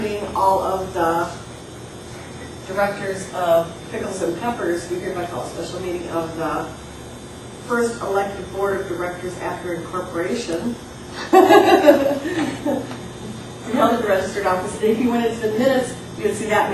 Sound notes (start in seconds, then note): 11.2 laughing